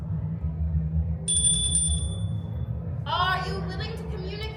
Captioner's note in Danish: klokken ringer